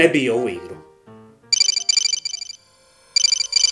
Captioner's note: phone rings